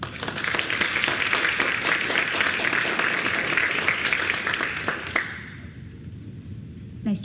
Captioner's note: applause